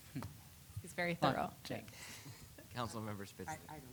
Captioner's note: laughs